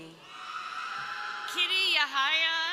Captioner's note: crowd cheering